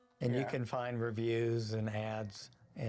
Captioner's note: Roy groans